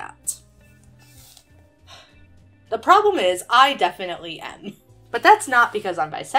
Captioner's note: sighs